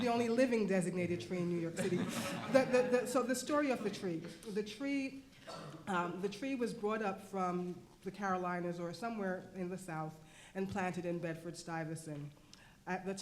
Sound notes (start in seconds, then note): 1.8 laughing